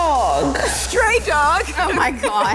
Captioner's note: laughs